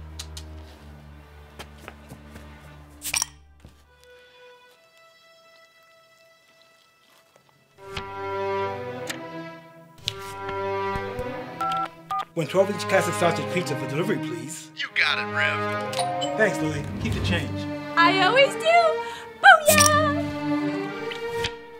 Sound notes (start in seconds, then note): 0.2 tongue clicking; 3.1 bottle cap clatters; 9.1 clock ticks; 11.0 finger tapping; 11.6 telephone beeping; 15.8 doorbell chimes; 19.7 bottle cap clatters